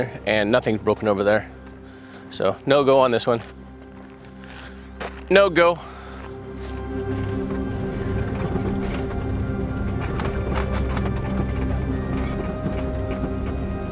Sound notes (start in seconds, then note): 6.0 vehicle rattling; 6.5 suspenseful music continues